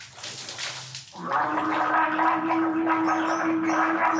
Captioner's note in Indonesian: gurgle gurgle gurgle